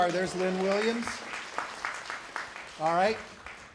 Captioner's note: applause